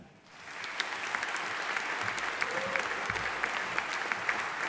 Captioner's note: audience applauding